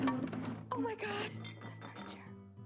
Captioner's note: thud